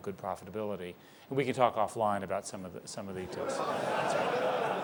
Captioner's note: laughter